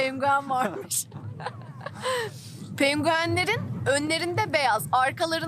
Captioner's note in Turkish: kahkaha